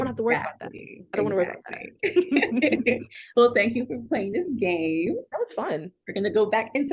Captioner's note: laughter